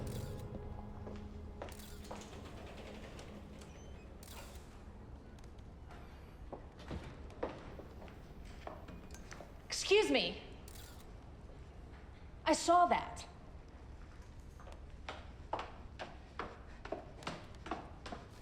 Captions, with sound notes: (camera shutter clicks) (shoes clacking) - Excuse me! (camera shutter clicks) I saw that. (shoes clacking)